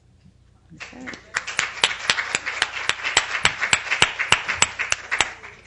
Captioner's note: applause